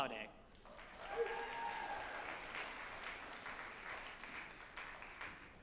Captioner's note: group applauding and cheering